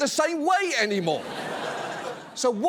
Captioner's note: audience laughs